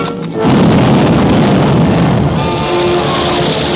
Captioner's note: bomb detonates